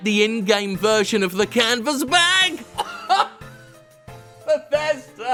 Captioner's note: laughs